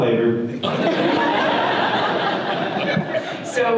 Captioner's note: audience laughter